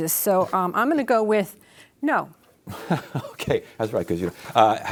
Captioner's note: laughs